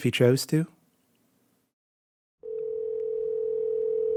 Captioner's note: dial tone sounds